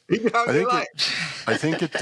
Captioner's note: laughter